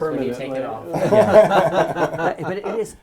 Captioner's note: laugh